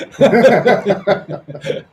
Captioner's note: all laughing